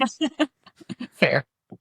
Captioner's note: laughing